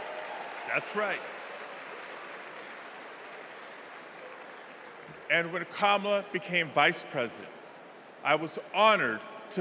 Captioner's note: cheers and applause